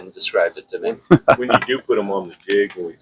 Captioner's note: laughing